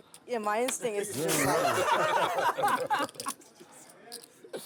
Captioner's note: laughter